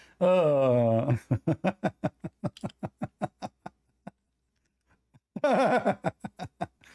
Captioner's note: Ketawa